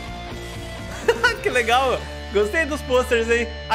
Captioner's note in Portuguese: risos